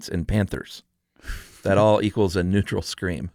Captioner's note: laughs